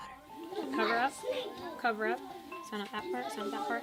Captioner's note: classroom sounds